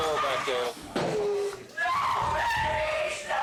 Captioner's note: screaming